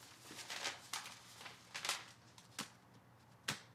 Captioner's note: paper rustles